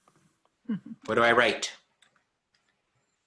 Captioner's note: chuckles